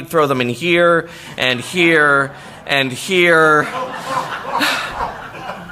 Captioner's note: laughter